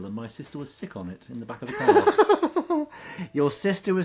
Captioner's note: laughs